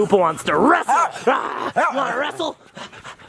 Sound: dog barks

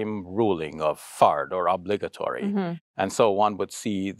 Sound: speaks Arabic

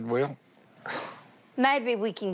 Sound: sighs

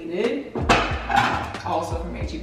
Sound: plates clanging

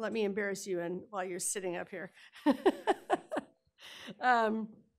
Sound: laughing

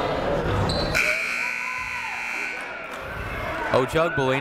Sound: buzzer ringing

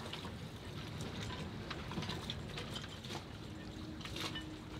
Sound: water lapping gently

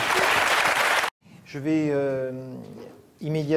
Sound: applause

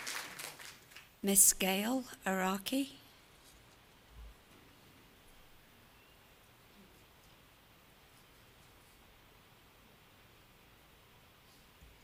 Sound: applause

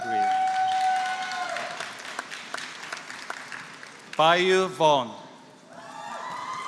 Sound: applause

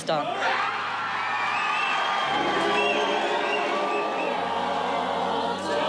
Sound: cheering

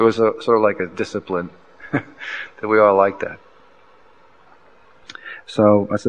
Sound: laughs

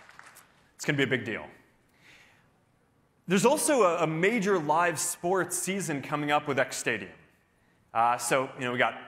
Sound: applause

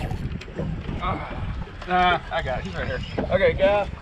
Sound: reel spinning

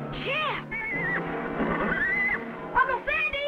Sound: Champ whinnies

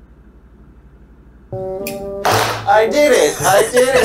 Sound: clap clap

